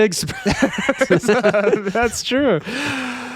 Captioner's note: laughing